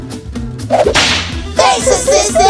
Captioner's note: snap